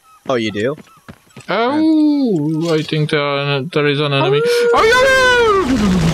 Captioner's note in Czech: vyje